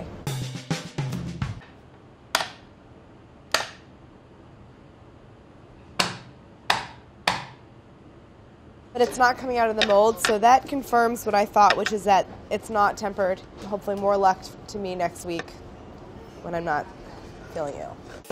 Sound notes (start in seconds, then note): 0.2 uptempo music; 2.3 mold tapping; 6.0 mold tapping